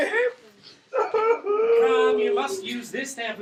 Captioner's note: crying